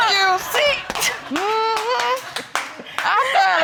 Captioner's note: all laughing